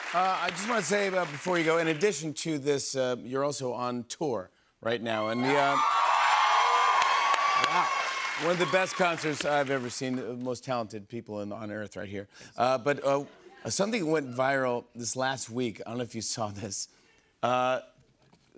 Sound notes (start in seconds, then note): 5.2 cheers and applause